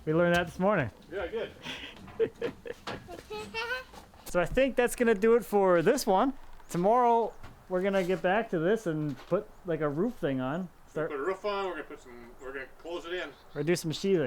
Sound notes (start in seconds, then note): 1.2 laughs; 3.7 children laughing